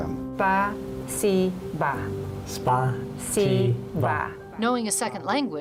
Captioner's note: speaking in foreign language